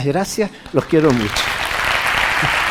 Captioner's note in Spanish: Aplausos